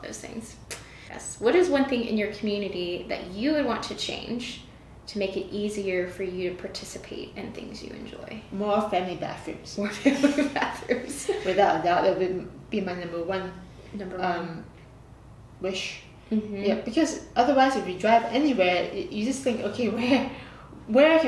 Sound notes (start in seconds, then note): 9.9 laughter